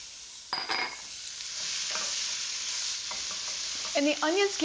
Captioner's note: sizzling